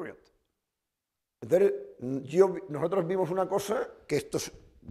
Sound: speaking spanish

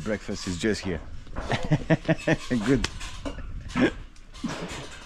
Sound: laughs

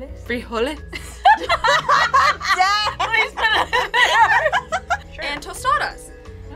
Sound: laughing

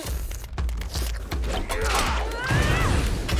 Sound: yells

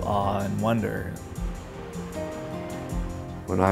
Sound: water rushing

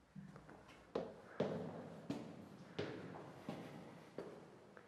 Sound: footsteps tapping

